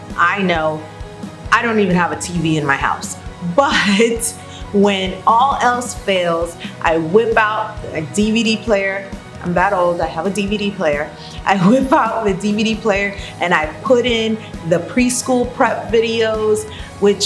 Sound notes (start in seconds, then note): 4.0 laughs